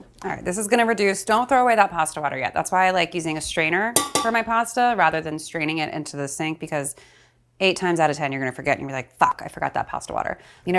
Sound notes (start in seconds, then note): none